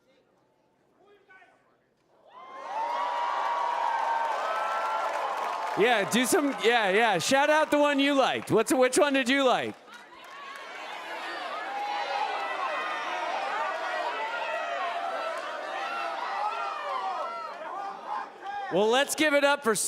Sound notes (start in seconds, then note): 4.7 cheering